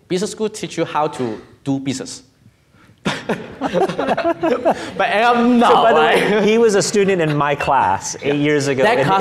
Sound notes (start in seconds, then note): 3.0 laughing; 3.0 laughs